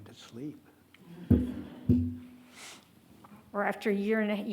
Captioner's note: attendees laugh